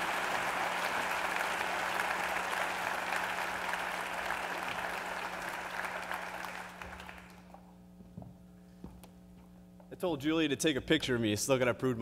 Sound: applause

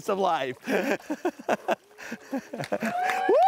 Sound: laughter; applause

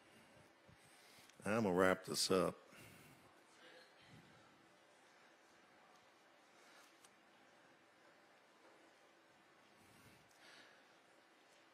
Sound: chuckles softly

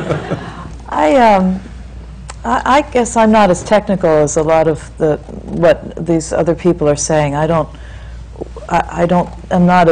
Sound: laughter

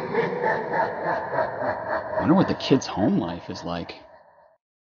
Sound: evil laugh

